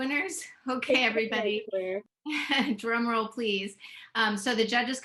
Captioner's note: laughs